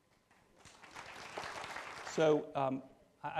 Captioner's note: applause